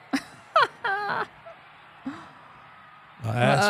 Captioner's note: laughs